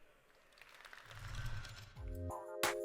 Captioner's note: applause